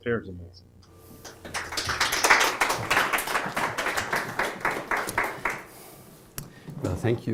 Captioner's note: applause